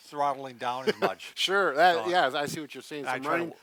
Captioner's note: chuckles